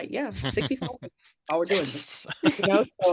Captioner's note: laughing